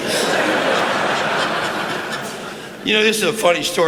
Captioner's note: laughter